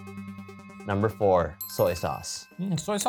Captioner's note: list chimes